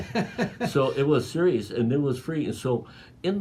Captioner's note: laughing